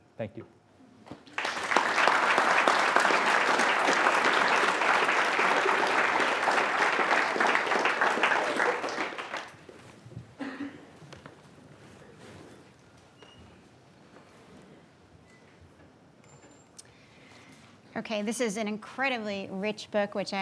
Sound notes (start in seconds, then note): 1.2 attendees applauding